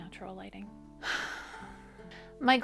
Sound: annoyed sigh

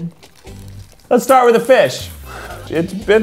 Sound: laughs

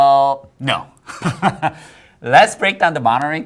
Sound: laughs

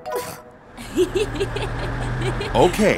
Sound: giggles

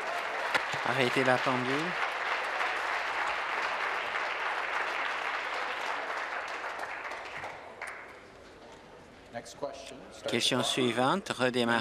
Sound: applause

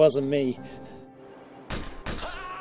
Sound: gun shots; scream

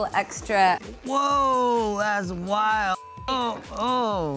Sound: beep

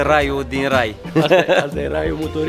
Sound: chuckles

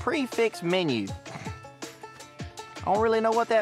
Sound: scoffs

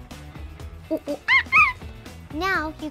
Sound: makes monkey sounds

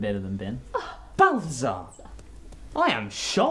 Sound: gasps; murmurs; claps

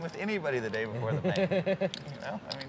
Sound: laughing

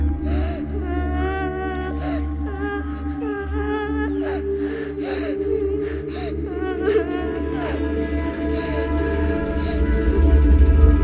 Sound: baby Girl Crying

